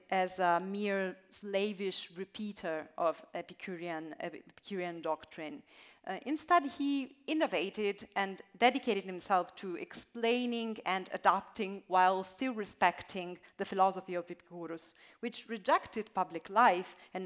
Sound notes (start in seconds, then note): none